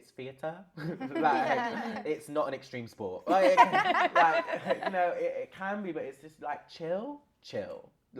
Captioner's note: laughter